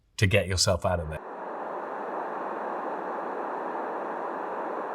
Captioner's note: air whooshing